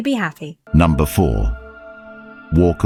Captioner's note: AI Voice